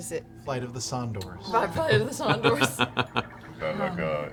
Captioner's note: laughs